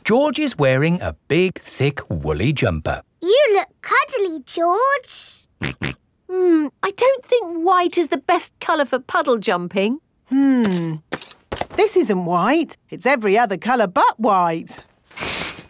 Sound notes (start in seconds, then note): 5.5 snorts